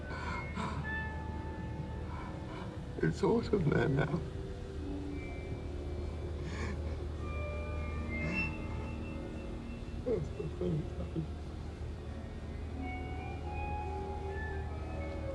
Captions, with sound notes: (Faraday gasping) (eerie music) - It's autumn there now. (Faraday sobbing) (eerie music) (Faraday mumbling) (eerie music)